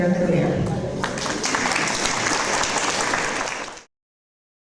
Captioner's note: audience applause